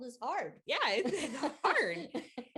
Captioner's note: chuckling